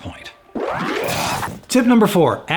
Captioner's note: sped up electronic whirring